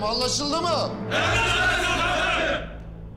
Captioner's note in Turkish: Hep bir ağızdan